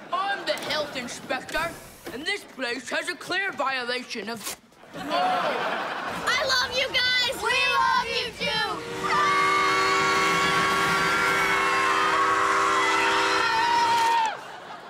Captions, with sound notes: I'm the health inspector. And this place has a clear violation of-- [laughing] - I love you guys! - We love you too! [screaming]